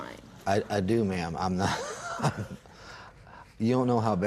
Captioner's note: sighs